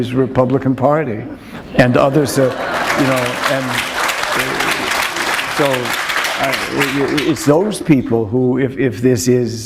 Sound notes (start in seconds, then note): 4.2 applause